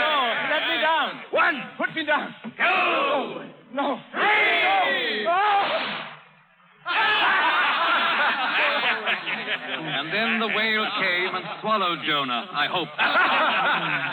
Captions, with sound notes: Let me down. One. Put me down. Two. No. Three. (ALL LAUGHING) And then the whale came and swallowed Jonah, I hope.